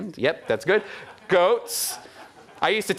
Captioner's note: audience laughing